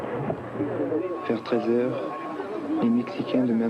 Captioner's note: S. Klau in French